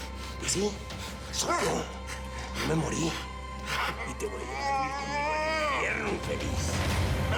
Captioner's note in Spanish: quejidos; quejidos